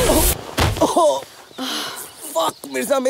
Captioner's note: Blubbering